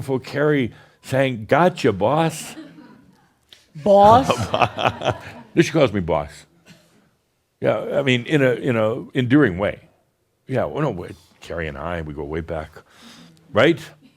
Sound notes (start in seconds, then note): 3.9 chuckles